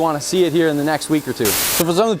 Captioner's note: static